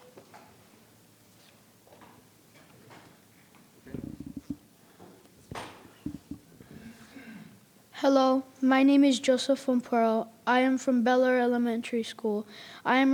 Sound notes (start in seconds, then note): 1.4 paper rustling; 3.8 microphone creaking; 6.9 throat clearing